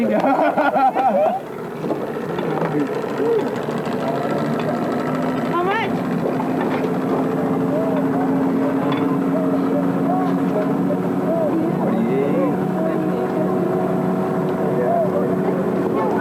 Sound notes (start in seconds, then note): 0.0 laughter; 3.8 water sounds